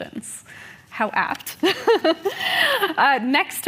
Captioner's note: laughs